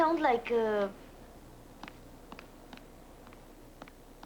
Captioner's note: footsteps approach